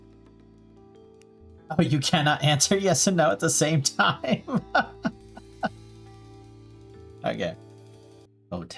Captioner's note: laughing